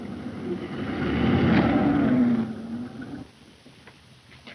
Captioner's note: engine puttering